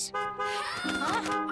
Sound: horn honking

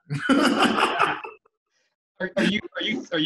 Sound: laughter

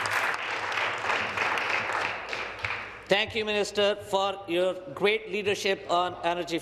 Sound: some Applause

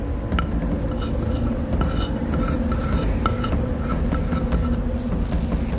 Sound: scraping sound

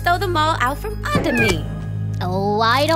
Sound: cat meows

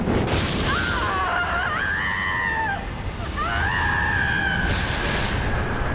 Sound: screaming

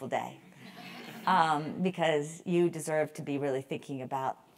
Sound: laugh

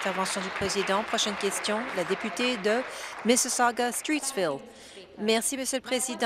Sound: applause

